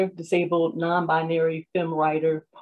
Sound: none

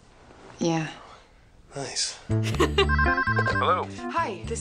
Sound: laughs

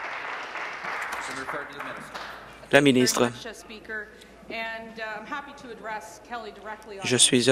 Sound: applause

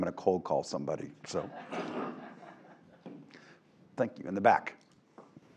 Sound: laugh

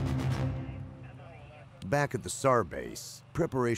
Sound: voiceover

